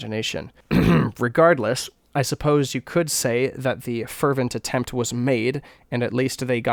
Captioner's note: clears throat